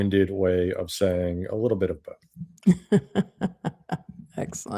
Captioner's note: laughs